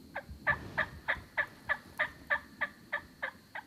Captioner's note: turkey calls